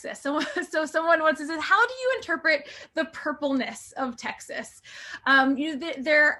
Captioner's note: laughter